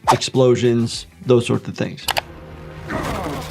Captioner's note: video clicking; fighter groaning